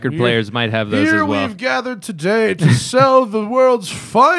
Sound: laughter

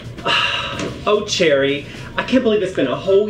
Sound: sighs

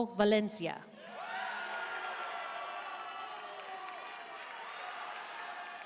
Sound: audience cheering and applauding

